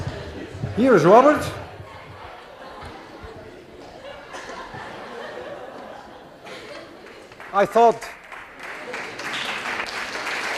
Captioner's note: laughter continues; class applauds